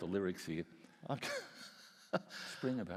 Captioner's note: laughs